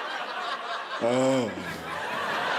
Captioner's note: deeper sobbing